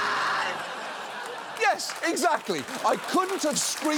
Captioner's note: audience applauds